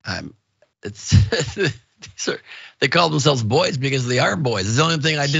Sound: laugh

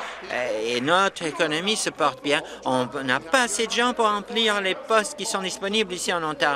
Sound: applause

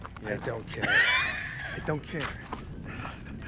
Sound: laughs

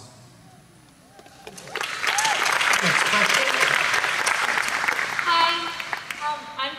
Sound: claps

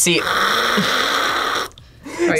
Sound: slurps

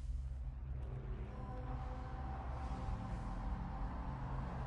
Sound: cars passing

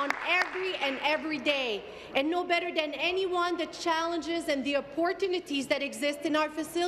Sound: applause

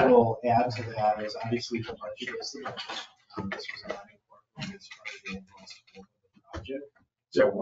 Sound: speaks distantly

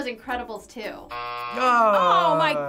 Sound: buzzer

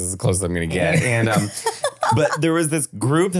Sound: laughing

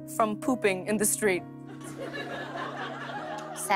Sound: light laughter

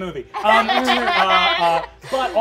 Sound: players laughing

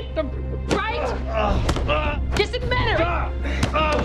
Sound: groaning

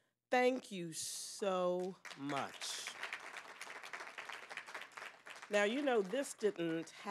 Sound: applause

